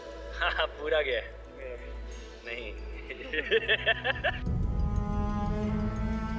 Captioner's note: laughing